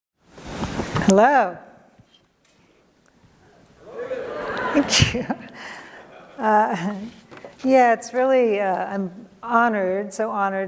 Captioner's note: audience says "hello"